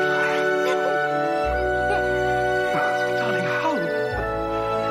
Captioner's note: laughing